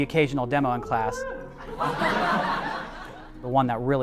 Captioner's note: students laughing